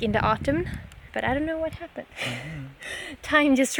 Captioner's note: laughter